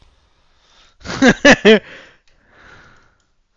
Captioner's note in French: Rire